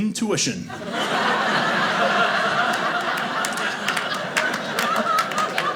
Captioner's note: audience laughing